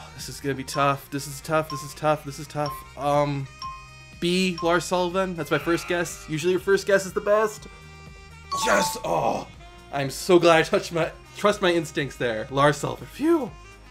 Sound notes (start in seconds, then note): 5.3 countdown timer buzzes